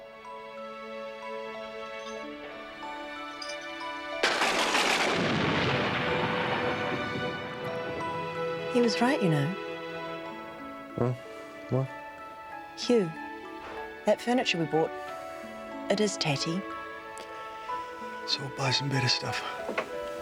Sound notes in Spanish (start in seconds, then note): 0.1 música suave; 4.2 la caída de rayos; 4.2 trueno aplaude